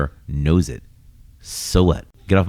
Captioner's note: uh